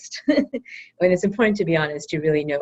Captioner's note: laugh